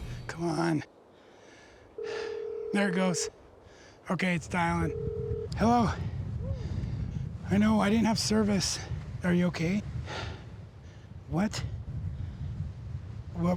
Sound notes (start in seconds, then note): 2.0 phone ringing